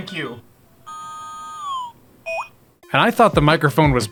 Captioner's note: electronic beeping noises